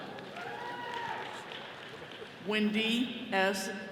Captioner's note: all cheering